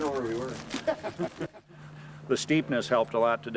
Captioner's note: men laughing